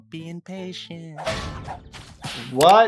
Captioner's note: object crashing